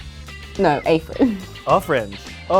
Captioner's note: laughs